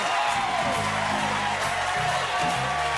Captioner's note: cheers and applause